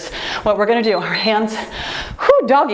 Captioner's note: timer beeps